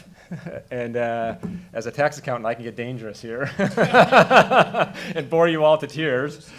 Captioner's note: laughing